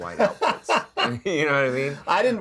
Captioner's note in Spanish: risas